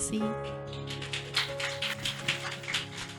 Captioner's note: applause